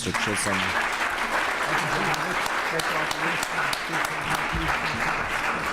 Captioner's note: applause